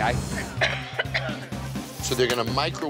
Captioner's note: coughs